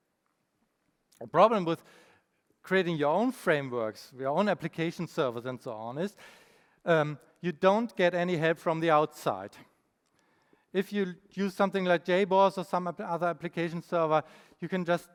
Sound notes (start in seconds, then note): none